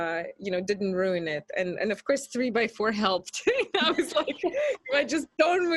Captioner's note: laughs